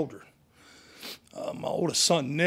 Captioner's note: sniffs